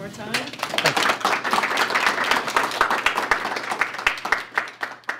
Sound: applause

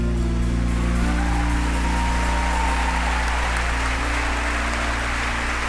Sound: audience cheers and applauds

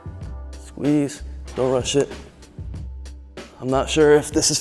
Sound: air whooshing

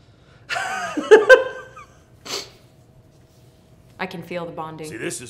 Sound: laughing

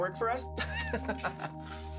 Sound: laughing

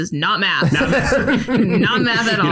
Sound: group laughs

